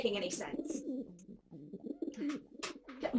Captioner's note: pigeon sounds